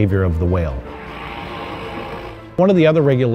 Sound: whale exhales

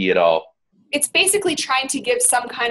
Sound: voiceover

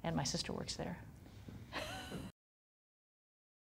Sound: laughs

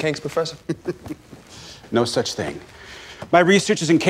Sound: laughs

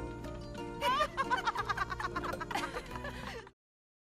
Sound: both women laughing

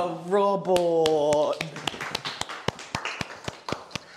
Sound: everyone Claps Enthusiastically

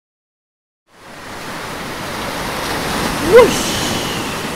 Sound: water splashing

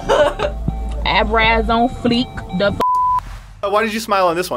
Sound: beep

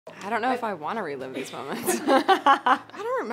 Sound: laughs

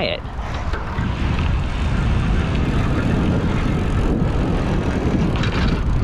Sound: bike rattling; wind gushing

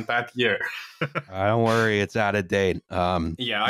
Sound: laughs briefly

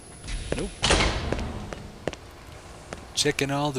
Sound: door slams

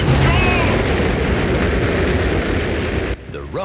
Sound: rockets blasting

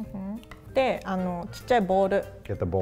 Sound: speaks in foreign language

